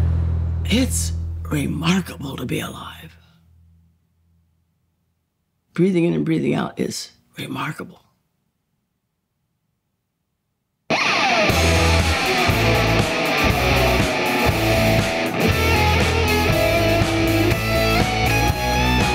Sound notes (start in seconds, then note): 2.8 music stops; 10.9 rock music plays